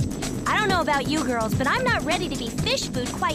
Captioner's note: plane flying